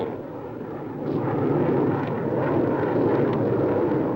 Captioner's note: engines whirring